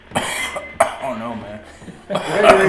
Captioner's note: coughs; all laughs